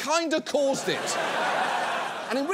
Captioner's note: audience laughs